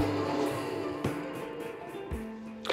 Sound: blender stops

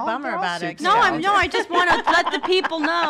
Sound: laughs

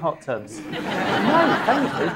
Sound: audience laughing

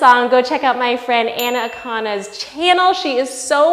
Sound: bell dings

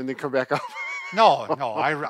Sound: laughs

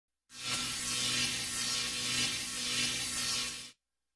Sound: electricity zapping

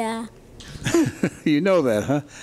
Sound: chuckles

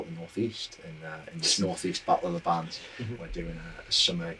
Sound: laughs

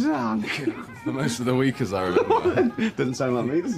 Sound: laughs

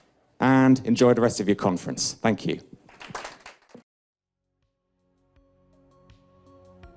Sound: raptuous Applause

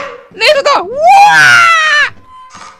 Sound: Toad scream

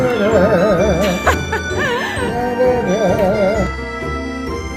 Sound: humming hahaha

